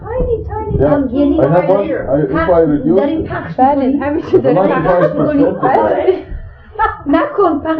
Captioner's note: speaking in Farsi